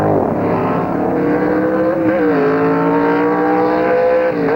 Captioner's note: engines roaring